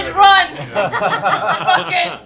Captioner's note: laughter